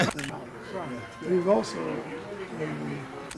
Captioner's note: laughing